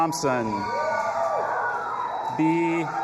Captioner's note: audience applauding and cheering